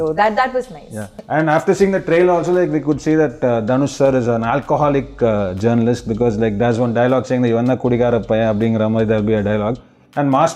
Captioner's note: Tamil dialogue